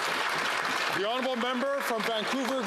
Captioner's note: some Applause